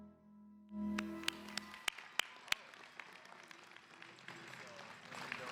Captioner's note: applause